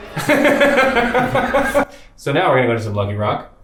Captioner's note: laughs